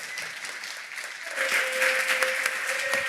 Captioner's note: applause